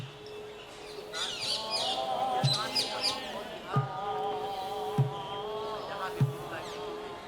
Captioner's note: chanting; drums beating